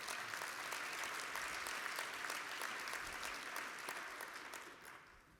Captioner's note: applause